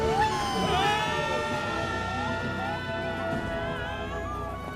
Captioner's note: screaming